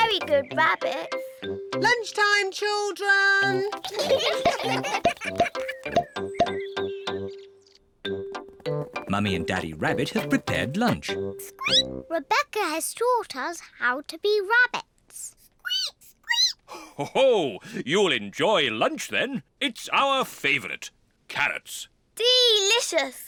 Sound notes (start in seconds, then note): 3.8 all giggling; 12.3 squeaks; 15.9 peppa and george squeak; 17.7 laughs